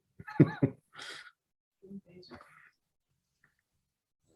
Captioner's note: laughs